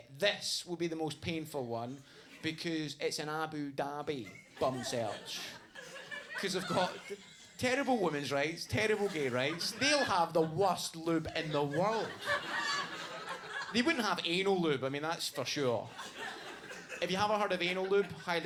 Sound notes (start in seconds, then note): 12.5 audience laughs